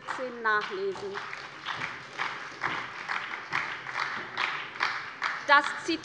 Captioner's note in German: Beifall bei der SPD